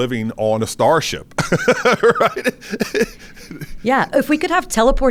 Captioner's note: laughs